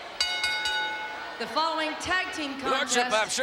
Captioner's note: bell rings